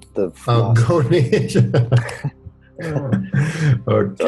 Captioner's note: laughs